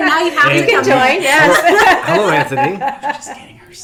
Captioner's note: laughing